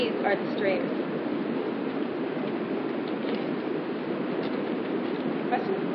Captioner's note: Sayfaları çeviriyor